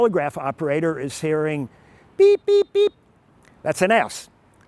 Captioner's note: more Morse Code noises